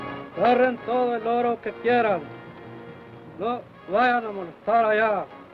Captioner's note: Chief speaks foreign language